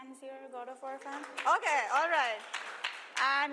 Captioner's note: applause